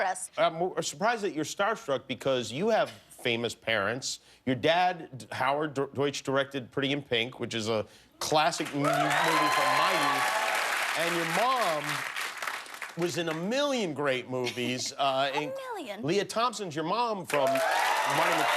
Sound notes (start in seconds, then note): 8.6 cheers and applause